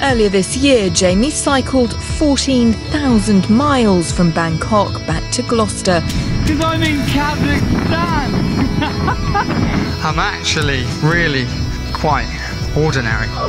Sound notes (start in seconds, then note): 8.4 laughs